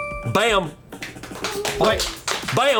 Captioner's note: colleagues applauding